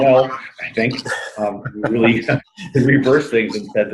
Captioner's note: laughs